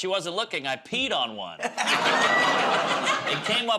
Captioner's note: laughter